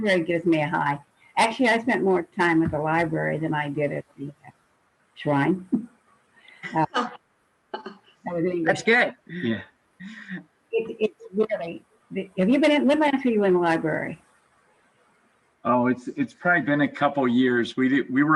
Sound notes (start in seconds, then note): 6.9 laughing loudly